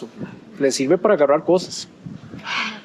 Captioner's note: in Spanish